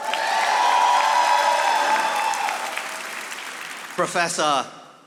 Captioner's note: audience applauding